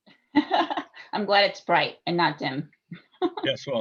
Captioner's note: laughs